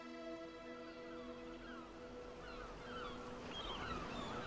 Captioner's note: moves to soft music; birds squawking